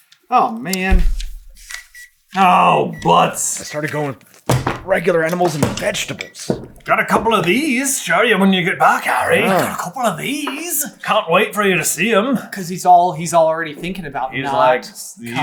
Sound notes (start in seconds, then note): 2.3 gentle beeping